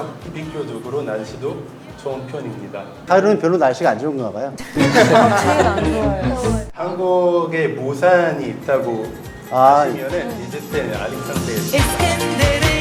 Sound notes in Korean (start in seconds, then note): 4.6 하하하하하하하하